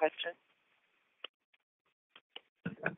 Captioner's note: silence